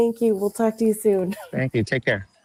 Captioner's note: chuckles